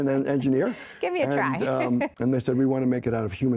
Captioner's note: laughs